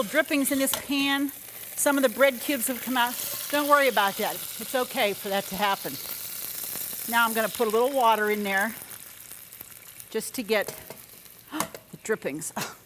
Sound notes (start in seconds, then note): 6.1 oil cooking